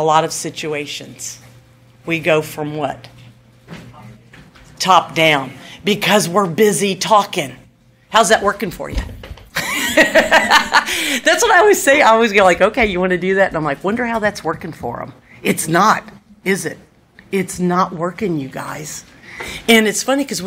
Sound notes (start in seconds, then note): 9.6 laughs